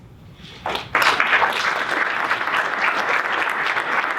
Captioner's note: audience applauding